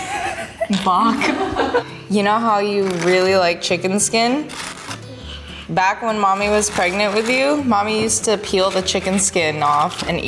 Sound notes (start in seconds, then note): 0.0 laughing